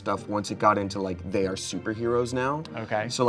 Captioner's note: none